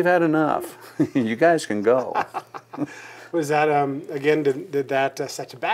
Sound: laughing

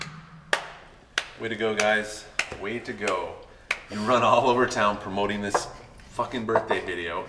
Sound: clapping

